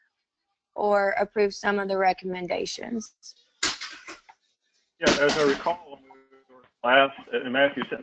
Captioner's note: cough